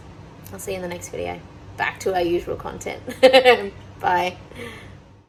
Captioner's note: laughs